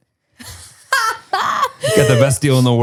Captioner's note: laughs